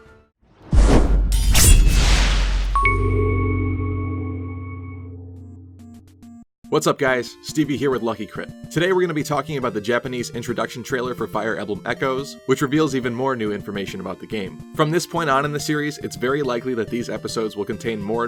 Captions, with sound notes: [Swoosh Sound] [Sword Slash Sound] [Intro Jingle] What's up guys, Stevie here with Lucky Crit. Today we're going to be talking about the Japanese Introduction trailer for Fire Emblem Echoes, which reveals more new information about the game. From this point on in the series it's very likely that these episodes will contain more